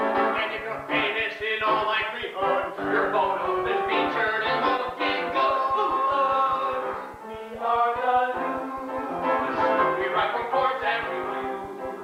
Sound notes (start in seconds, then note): 5.6 poof